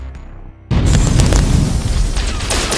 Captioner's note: explosion booms; guns blasting